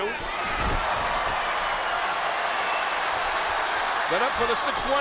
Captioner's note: crowd cheering